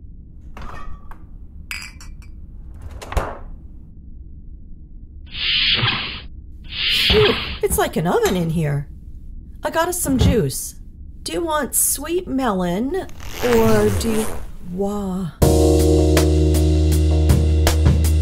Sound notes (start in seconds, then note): 0.2 sound of refrigerator, bottles; 5.3 door sliding; 15.4 slow sexy music